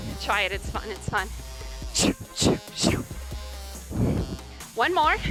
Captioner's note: sound effects